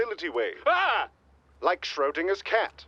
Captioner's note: shocked yell